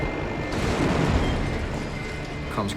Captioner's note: crashing sound in distance